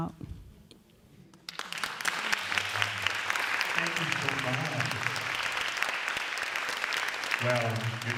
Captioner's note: applause